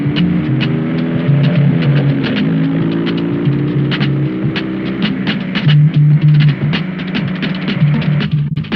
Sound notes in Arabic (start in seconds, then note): 3.0 هدير المحرك